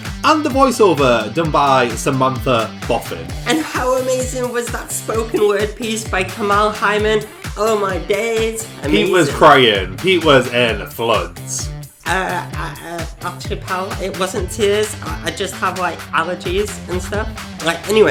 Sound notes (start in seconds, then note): 12.3 stutters